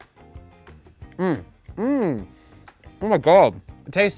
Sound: moaning

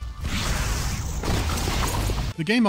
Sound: fiery blast

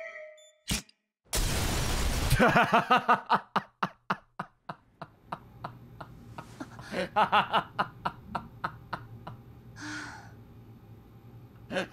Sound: laughs

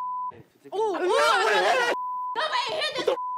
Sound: beep

